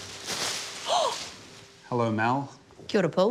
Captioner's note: gasps